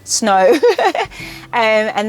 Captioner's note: laughs